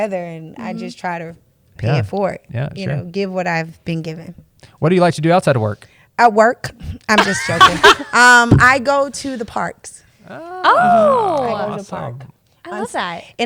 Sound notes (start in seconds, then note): 7.2 laughs